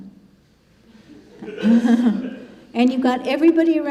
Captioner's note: congregation laughing